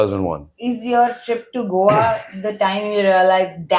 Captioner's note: laughs